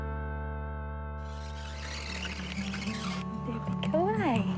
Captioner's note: sliding door whirrs